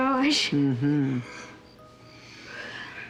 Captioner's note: giggles; yawns